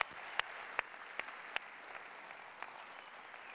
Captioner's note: applause